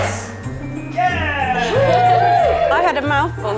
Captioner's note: cheering